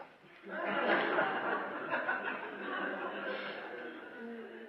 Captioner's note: laughter